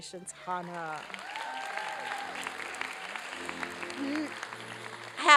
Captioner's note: applause and cheering